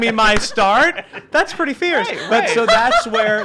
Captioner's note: laughing